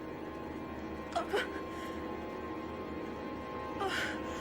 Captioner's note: Louise groans